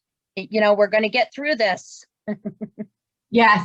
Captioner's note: laughs